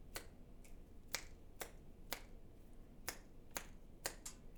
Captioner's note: fingers snapping